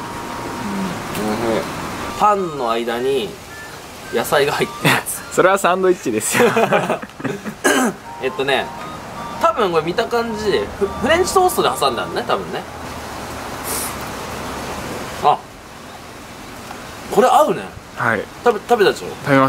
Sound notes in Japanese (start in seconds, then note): 7.6 咳払い